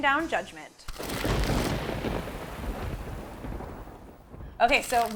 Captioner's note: thunder crashing